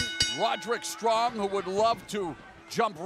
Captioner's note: bell ringing